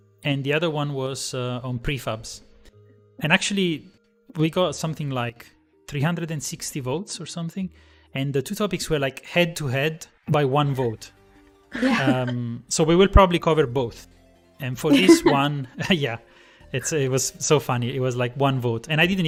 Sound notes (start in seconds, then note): 14.9 laughter